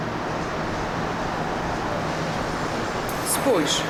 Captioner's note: highway noises